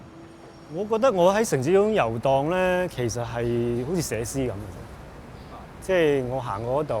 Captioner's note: Cantonese